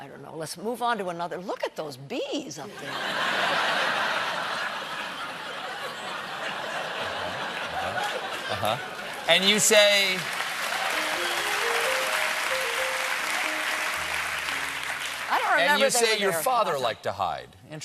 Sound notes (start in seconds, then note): 2.7 laughter; 12.5 applause